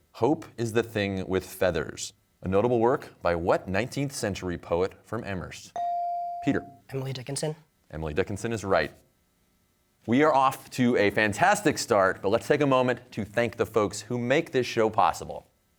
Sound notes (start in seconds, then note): none